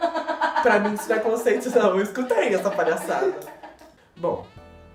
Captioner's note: girl chuckling at the back